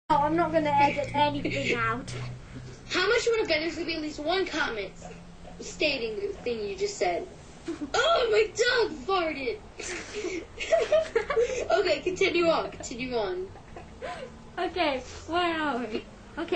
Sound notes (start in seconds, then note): 9.8 both laughing